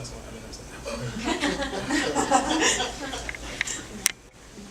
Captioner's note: audience laughing